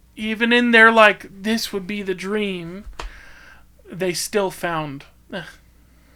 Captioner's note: scoffs